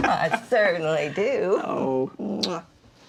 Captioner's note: mama laughs